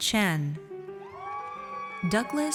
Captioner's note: audience cheers